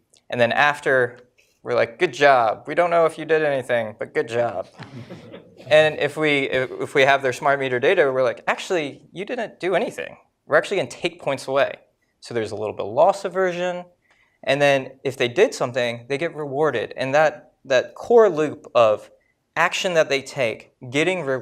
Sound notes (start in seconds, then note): 4.7 laughter